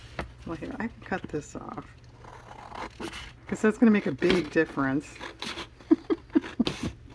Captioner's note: laughs